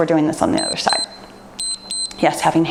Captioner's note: timer beeps